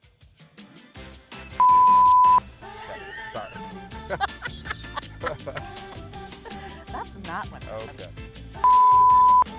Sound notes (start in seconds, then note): 0.1 upbeat music; 4.0 laughs